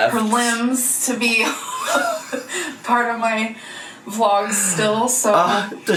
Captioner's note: laughs